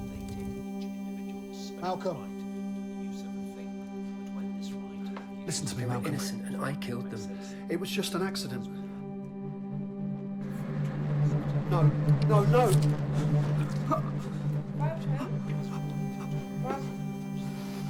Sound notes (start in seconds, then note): 11.4 dramatic music; 14.0 Malcolm gasps